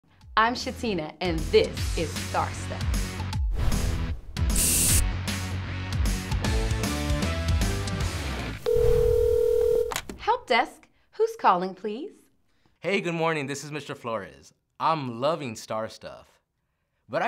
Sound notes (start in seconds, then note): 3.3 exciting rock music; 8.6 phone rings